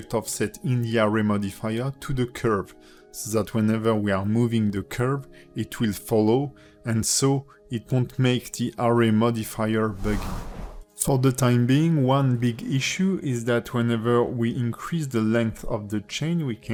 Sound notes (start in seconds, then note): 9.8 air whooshes